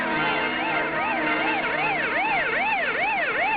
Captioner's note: siren wailing